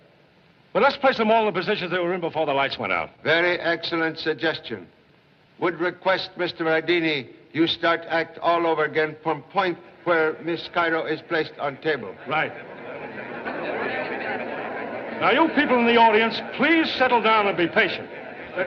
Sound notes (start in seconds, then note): 13.2 crowd Murmuring